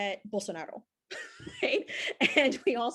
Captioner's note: laughs